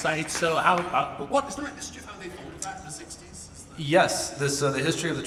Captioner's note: speaks faintly